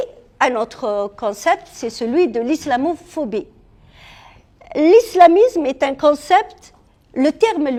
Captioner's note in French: soupir